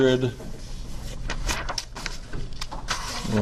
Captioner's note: flipping pages